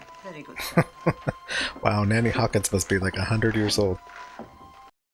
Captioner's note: chuckling